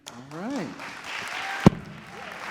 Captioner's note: audience claps